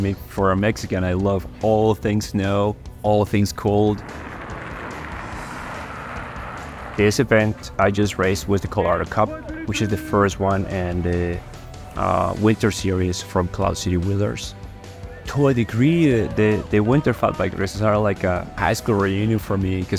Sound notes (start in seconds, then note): 3.8 bike tires ride on road